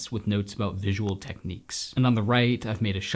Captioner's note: none